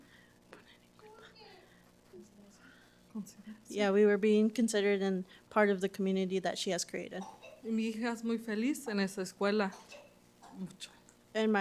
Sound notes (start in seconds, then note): 1.2 interpreter and whispering; 8.1 speaking Spanish